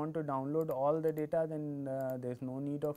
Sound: click

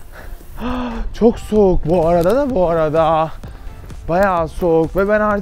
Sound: gasps

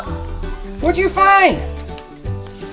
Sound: gasps

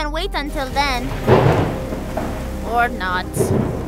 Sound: thunder booms

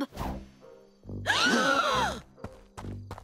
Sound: gasping

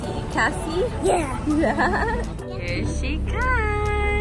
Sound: laughs

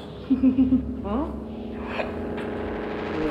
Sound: chuckles

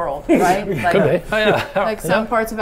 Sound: chuckling

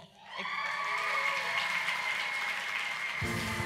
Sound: applause

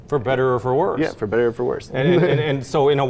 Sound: laughs

